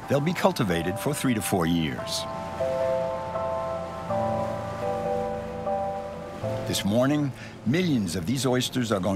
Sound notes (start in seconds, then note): 2.7 boat engine humming; 2.7 gentle music